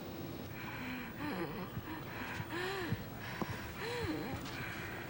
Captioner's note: Nancy breathes heavily